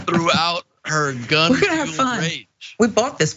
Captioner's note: laugh